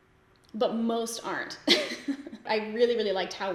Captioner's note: laughs